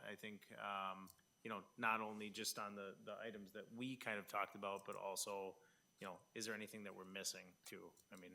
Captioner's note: none